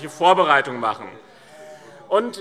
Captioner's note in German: Vereinzelter Beifall BÜNDNIS 90/DIE GRÜNEN und CDU - Zurufe SPD: Oh!